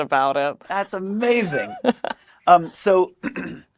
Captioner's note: laughs